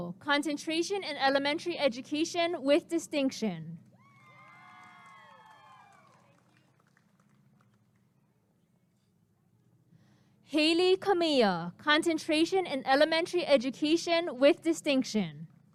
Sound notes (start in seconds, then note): 3.9 applause and cheering